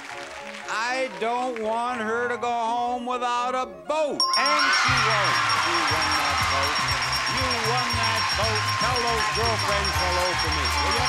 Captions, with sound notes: I don't want her to go home without a boat! And she won't! (audience cheering) (upbeat music) She won that boat. You won that boat. Tell those girlfriends hello for me.